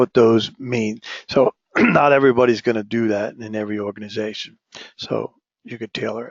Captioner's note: cough